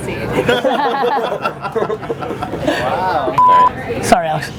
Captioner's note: laughter